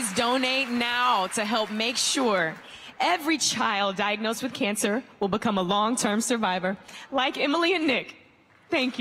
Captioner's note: applause